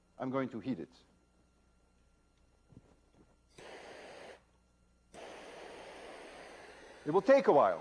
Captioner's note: sound of blowtorch